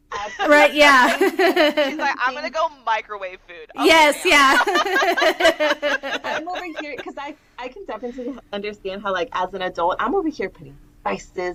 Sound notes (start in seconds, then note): 4.4 laughter